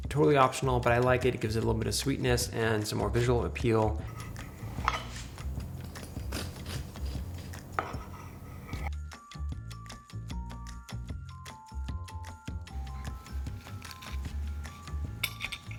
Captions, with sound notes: Totally optional, but I like it. It gives it a little bit of sweetness and some more visual appeal. (knife taps) (knife taps) (bright music)